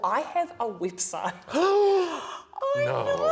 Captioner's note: shocked inhale